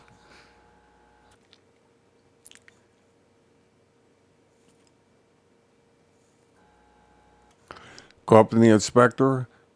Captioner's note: silence